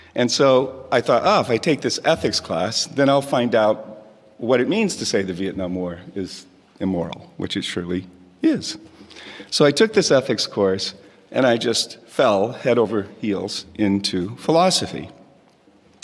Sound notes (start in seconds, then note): none